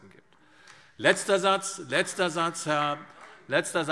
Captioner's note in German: Beifall